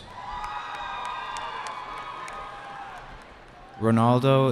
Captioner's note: cheering